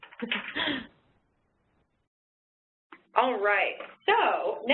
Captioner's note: laughs